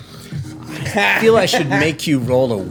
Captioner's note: laughter